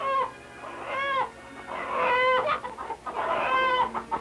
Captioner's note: chicken noises